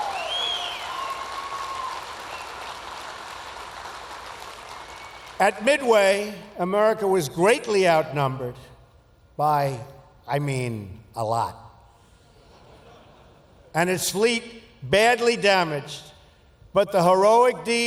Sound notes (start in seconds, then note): 0.0 applause; 12.3 laughter